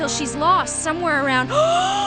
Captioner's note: gasp